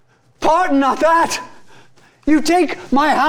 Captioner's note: panting